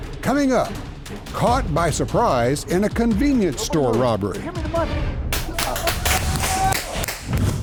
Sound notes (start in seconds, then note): 0.4 voiceover; 5.5 popping; 5.5 yelling